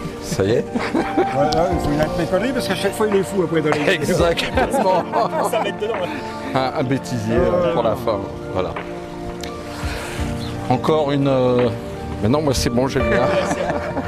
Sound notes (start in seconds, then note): 3.8 laughs